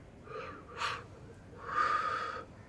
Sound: exhales

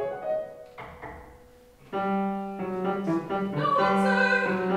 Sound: Laetia knocks on door

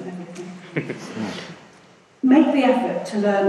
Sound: laughing

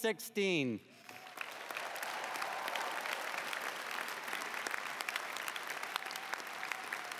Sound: applause

